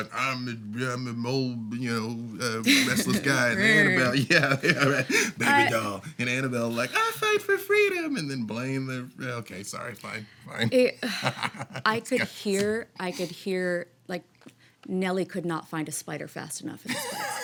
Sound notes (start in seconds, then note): 11.0 chuckles